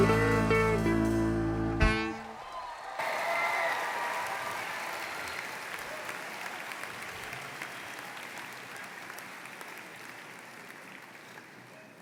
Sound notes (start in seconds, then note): 2.4 applause